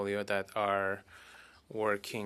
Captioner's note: speaking French